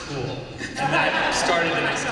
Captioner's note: laughter